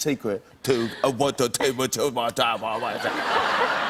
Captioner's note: speaking gibberish; laughter